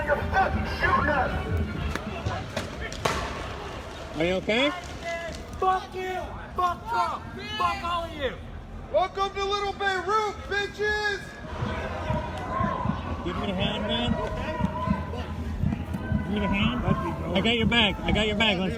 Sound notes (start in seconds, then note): 9.2 muffled shouting